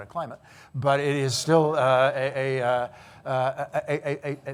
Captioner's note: stutters